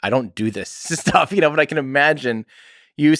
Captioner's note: Tim laughs